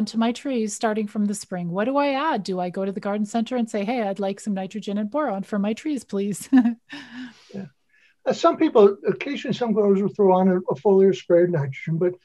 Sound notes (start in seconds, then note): 6.5 female chuckling